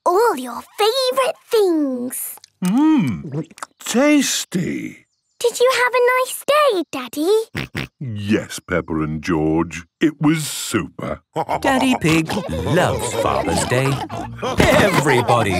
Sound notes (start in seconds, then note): 7.5 snorting; 15.4 laughter